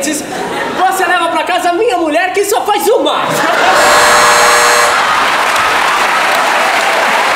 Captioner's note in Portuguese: campainha